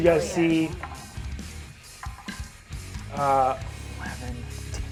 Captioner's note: die rolls